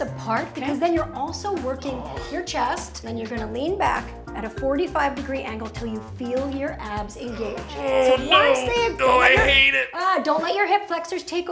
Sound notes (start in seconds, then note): 1.7 groans; 7.2 grunting